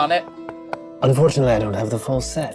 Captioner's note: knocking table